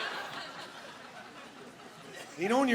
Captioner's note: laughing